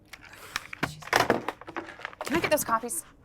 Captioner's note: metal clanking